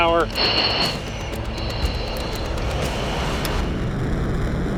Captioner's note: jet whooshing